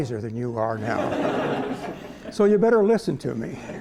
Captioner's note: laughter